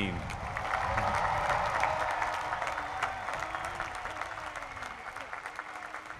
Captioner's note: applause